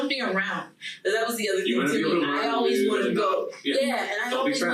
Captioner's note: group chattering